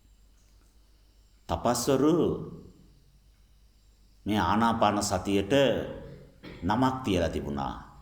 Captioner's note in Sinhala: උගුර කෑරීම